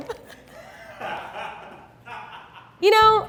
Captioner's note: man laughing